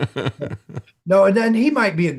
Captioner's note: laughing